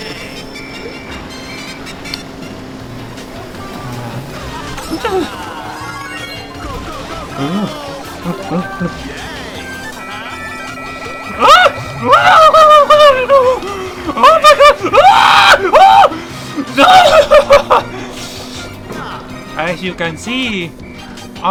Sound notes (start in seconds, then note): 11.9 panicked and... Making turkey noises?; 16.5 an adrenaline laughter I guess